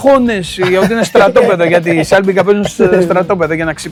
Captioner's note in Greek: γέλια